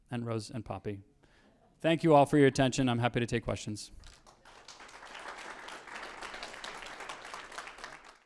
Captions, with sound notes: And Rose and Poppy. Thank you all for your attention, I'm happy to take questions. (audience applauding)